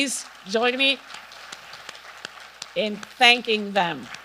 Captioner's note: audience clapping